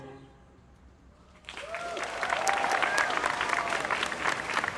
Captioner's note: applause